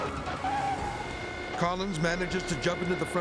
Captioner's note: tires screeches